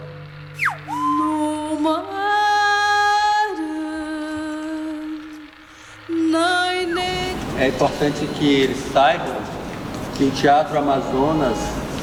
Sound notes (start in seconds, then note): 0.2 non-english singing; 7.9 non-english speech